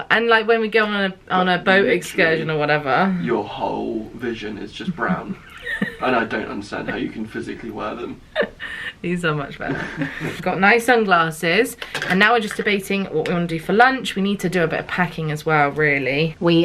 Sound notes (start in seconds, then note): 4.7 laughing